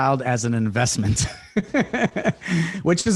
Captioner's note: laughs